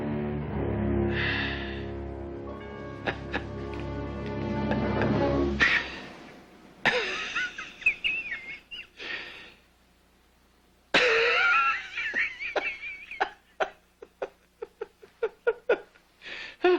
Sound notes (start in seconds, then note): 4.4 starts laughing